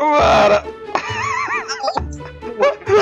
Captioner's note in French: rires